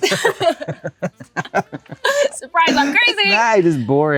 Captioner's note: both laugh